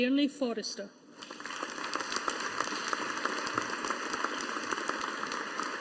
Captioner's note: audience applauding